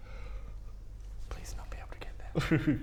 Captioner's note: Baradun, whispers